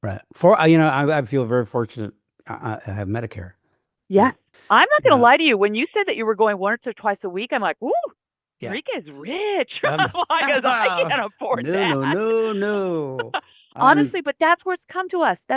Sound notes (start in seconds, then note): 9.7 laughs